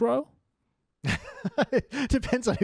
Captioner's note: laughs